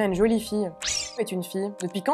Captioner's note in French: bip